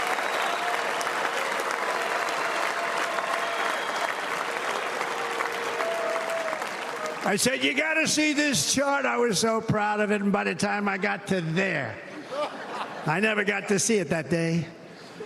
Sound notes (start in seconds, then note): 0.0 cheers and applause